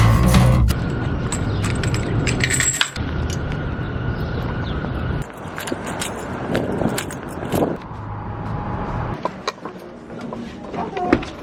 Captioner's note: wind and walking